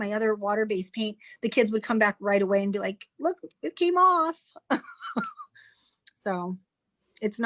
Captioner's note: chuckles